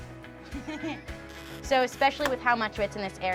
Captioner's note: laughing